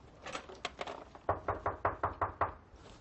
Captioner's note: door knocking